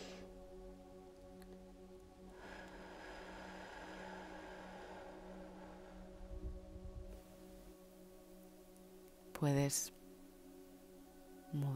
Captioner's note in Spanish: Suspiro